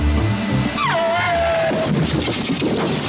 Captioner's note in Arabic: اصوات صرير الاطارات